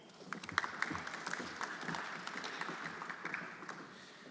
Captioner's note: everyone applauding